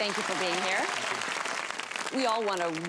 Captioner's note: applause